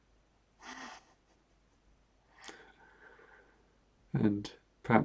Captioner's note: chuckles